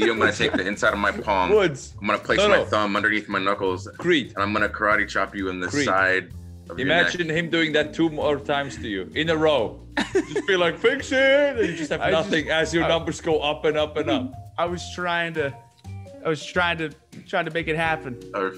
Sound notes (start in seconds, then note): 11.5 laugh